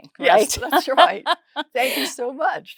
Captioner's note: laughs